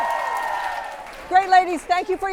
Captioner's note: crowd cheers